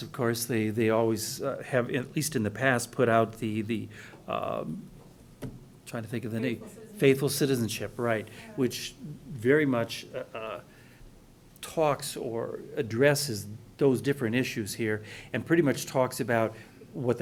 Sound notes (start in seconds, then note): 6.6 voiceover